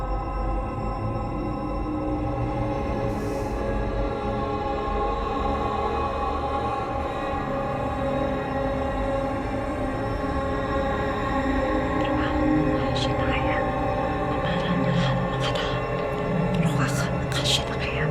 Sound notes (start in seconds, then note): 12.5 Naira chanting in Hebrew